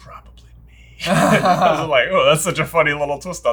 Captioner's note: both laughing